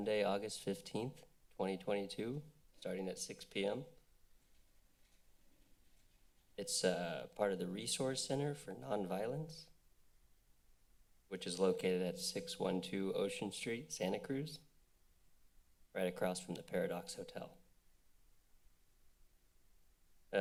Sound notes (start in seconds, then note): 10.0 pause; 17.9 pause